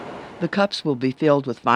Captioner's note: voiceover